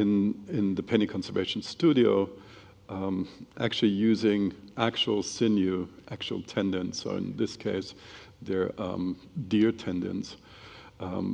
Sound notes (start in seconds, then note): none